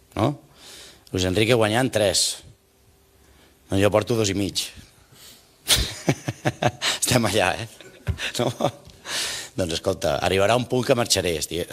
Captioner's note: laughs